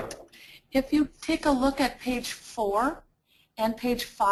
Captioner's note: voiceover